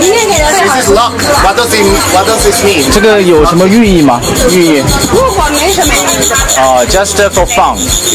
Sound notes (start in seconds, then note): 3.0 speaking Chinese